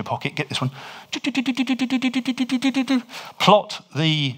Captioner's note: he hums